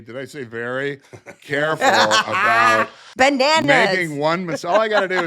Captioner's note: laughing